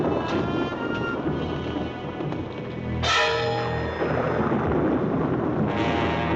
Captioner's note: lightning crashing; suspenseful music continues